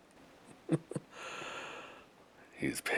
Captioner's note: chuckles